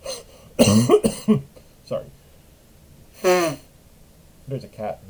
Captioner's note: cough; blows nose